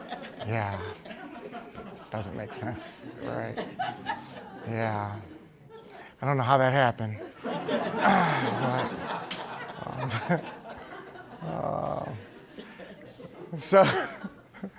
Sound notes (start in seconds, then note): 8.9 laughter